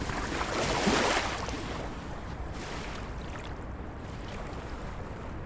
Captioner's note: waves splashing ashore